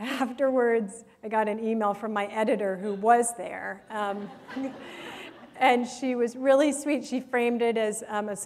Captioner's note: laughter